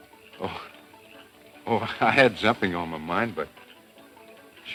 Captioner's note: chuckling